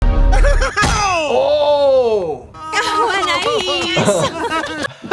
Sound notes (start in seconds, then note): 0.3 characters laughing; 2.7 characters laughing